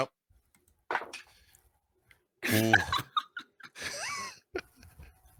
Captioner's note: laughing